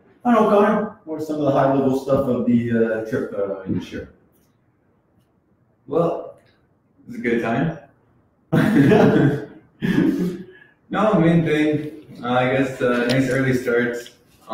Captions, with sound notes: So, I don't know Konner, what's some of the high-level stuff of the trip this year? - Well, it was a good time (laughs). No, the main thing, I guess it really starts